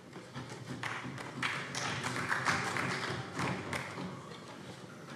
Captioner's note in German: Beifall CDU, BÜNDNIS 90/DIE GRÜNEN und SPD